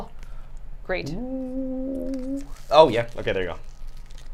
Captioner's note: mumbling